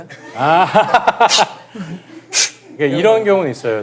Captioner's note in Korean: 쉭 쉭